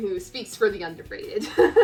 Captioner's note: laughs